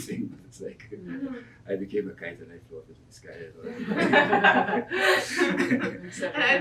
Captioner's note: laughs